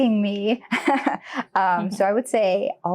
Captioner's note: chuckles